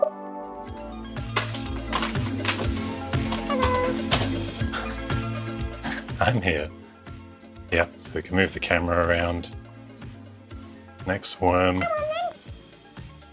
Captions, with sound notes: (objects clattering) (upbeat music) I'm here. Yeah, so we can move the camera around. Next worm.